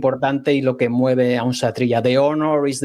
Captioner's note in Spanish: none